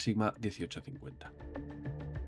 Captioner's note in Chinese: 英语